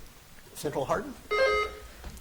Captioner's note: buzzer dings